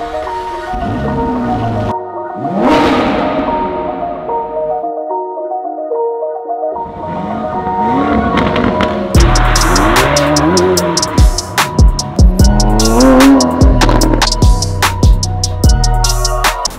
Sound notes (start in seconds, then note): 2.4 engine roaring; 9.8 upbeat music